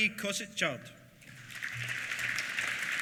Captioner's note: applause